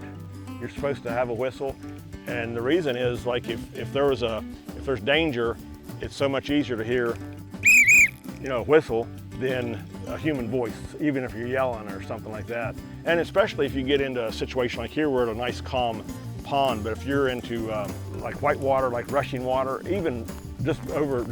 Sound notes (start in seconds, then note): 7.6 whistles